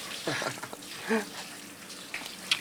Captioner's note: laughing